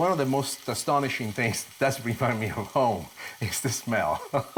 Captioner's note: laughs